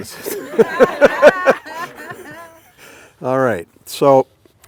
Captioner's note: all laugh